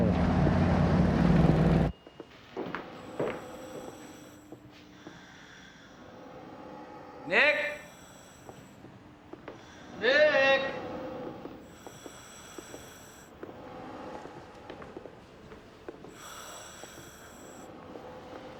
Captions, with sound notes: - Eh. (mechanical wheezing) - Nick? - Nick? (wheezing) (wheezing)